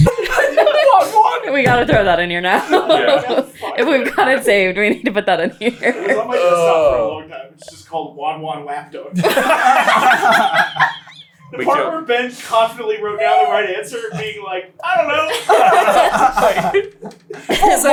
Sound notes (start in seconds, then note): 9.1 team laughter; 15.2 laughter